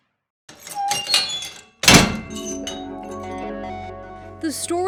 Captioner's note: door squeaking